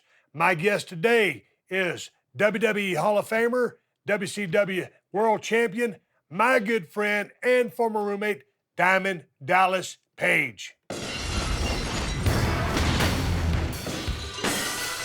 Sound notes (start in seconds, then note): 10.9 glass shattering; 12.2 upbeat music